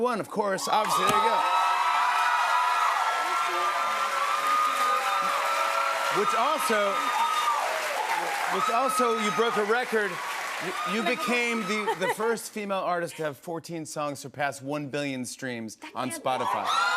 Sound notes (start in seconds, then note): 1.5 cheers and applause